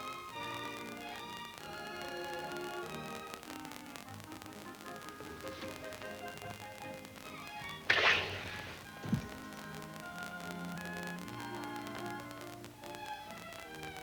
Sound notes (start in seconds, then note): 5.4 gentle music continues; 8.0 matchstick crackling; 8.8 gentle music